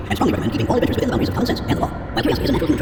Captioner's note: voice is speeding up and getting higher pitched